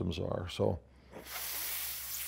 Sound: inhales deeply

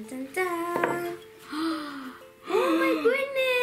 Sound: both gasping

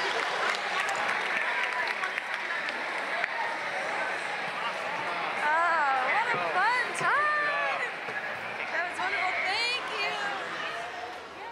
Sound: applause

